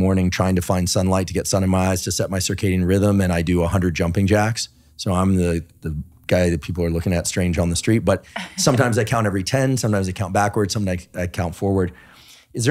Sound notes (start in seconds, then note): 8.3 laughing